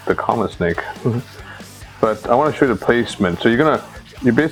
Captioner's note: laughs